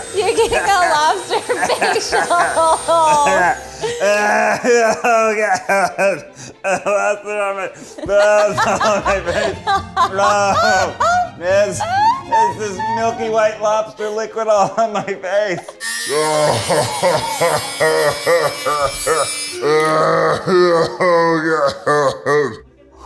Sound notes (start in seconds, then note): 0.0 laughs; 2.6 laughter; 4.9 gags; 7.7 laughs; 16.0 groans; 19.5 gags